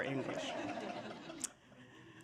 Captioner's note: laughter